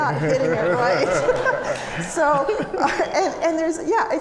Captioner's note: audience laughing